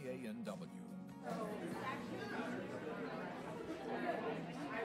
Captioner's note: people conversing